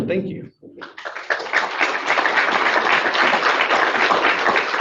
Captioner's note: audience applauds